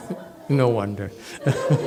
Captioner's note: laughs, audience laughs